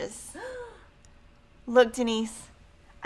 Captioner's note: woman gasps